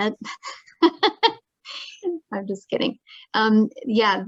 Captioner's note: laughs